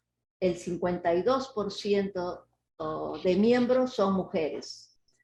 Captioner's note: replying in Indonesian; speaking Indonesian